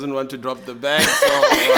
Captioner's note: laughing